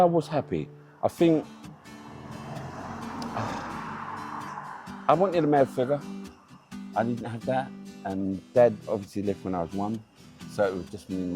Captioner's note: sigh